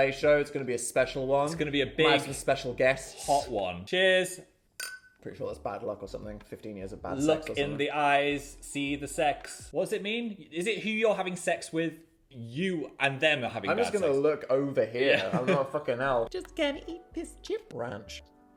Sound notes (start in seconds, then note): 4.8 glass clinking; 15.1 chuckling